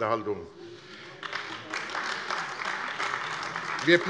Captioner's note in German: Beifall AfD